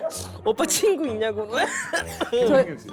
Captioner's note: clearing throat